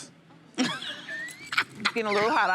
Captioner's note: laughing